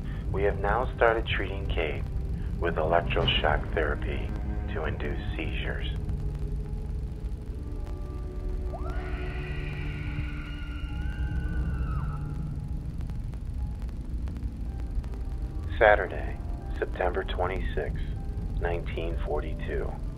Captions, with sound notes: We have now started treating Kate with electro shock therapy to induce seizures. (Kate screaming) (ominous music) Saturday, September 26th, 1942.